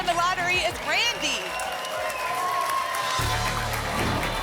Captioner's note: applause and cheering cont